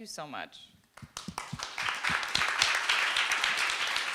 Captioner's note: group clapping